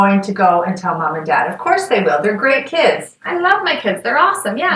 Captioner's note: sarcasm